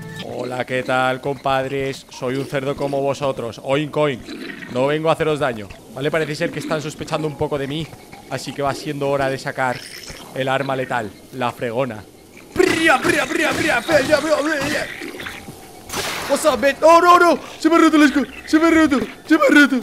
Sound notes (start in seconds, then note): 12.5 battle cries